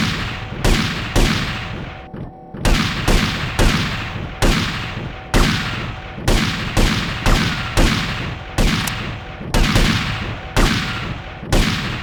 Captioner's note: gunshots